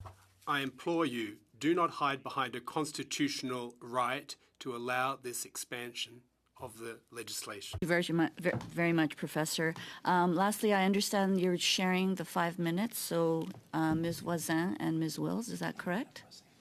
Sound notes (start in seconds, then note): 6.1 speaking French